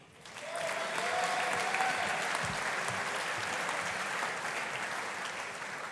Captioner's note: audience applauding; audience cheering